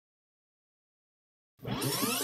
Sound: rewinding noise

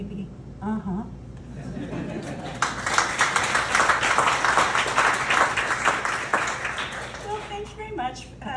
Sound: laughter and Applause

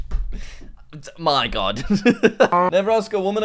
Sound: laughs

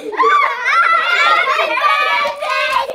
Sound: laughs

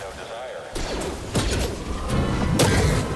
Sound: clang of metal

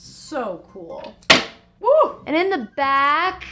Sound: egg thuds

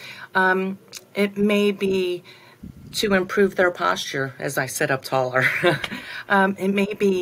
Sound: laughter

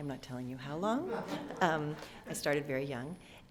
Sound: laughter

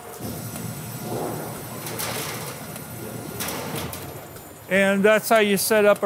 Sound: machine clanks softly

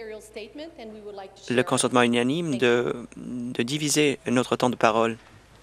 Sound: speaking French

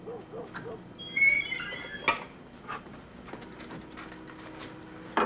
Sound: door squeaking

